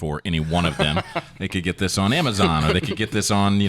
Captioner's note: laughing